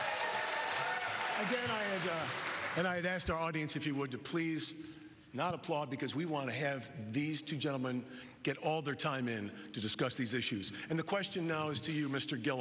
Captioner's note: applause